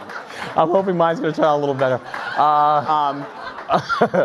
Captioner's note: laughs